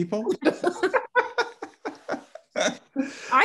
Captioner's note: all laughing